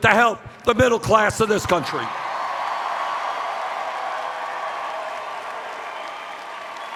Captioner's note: cheers